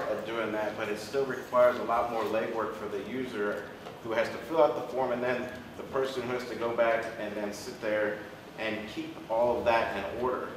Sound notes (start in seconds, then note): none